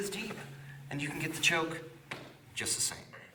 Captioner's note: hand tapping gently